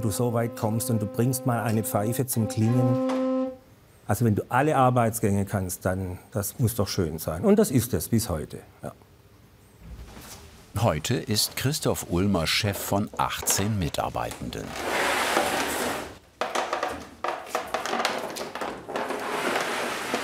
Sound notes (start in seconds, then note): 16.3 creaking